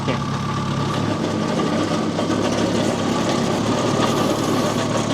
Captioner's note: loader rumbles